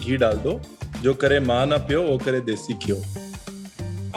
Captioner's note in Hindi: पंजाबी में